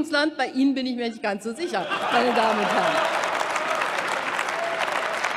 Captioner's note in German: Heiterkeit und Beifall bei Abgeordneten der CDU/CSU und der FDP